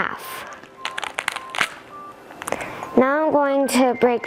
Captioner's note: pomegranate crackles